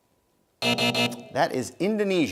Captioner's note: buzzing